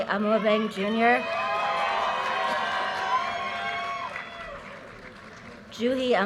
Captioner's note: audience cheers and applause